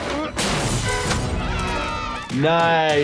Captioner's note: kids cheering